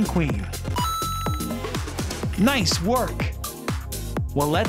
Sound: chime

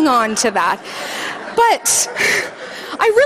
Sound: audience laughing

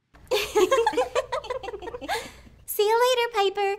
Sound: women laugh

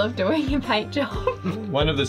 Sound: chuckles

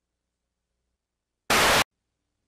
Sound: Static

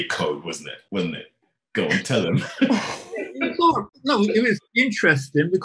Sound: laughing

